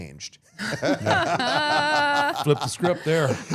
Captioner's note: all laughing